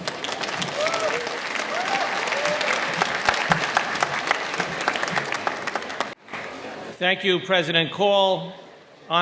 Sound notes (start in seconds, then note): 0.0 applause